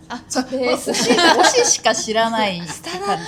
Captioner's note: laughs